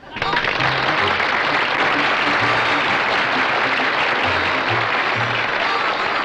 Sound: clapping

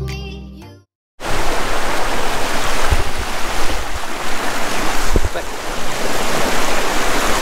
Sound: waterfall sounds

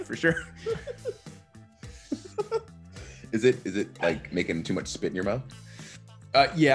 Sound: laugh

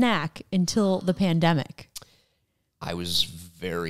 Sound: gasps

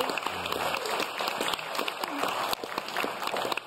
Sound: audience claps

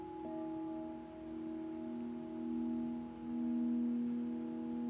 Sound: bowl quietly hums

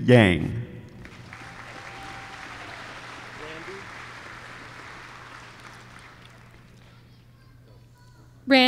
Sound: applause

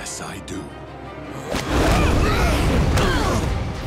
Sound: grunting

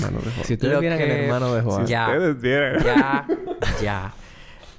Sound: laughs

